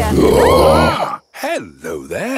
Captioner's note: roaring, screaming